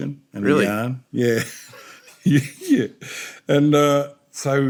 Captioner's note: both laugh